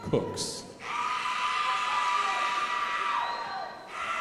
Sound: crowd applauding

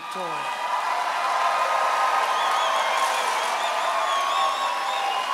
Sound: audience cheers and applauds

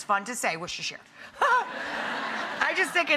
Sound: audience laughing

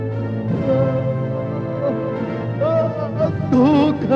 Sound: groans

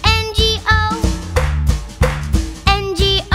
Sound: clap

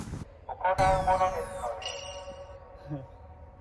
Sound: Tannoy speaker announcements

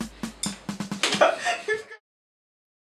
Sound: laughter

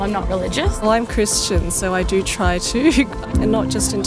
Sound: chuckles

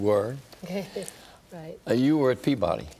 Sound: laughs

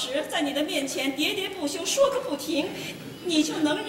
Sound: chattering, non stop

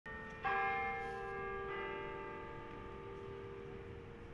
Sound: Lurie Tower plays in the background

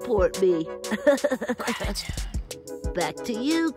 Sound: giggles

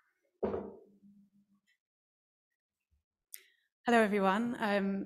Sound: sound of glass on table

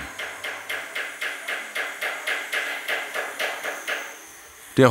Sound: knocking in the background

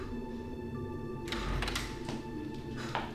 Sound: door opens

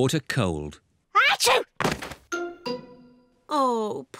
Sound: sneezes

